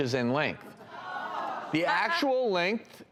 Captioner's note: audience yells